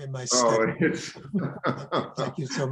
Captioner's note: laughs